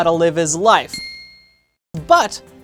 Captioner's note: ding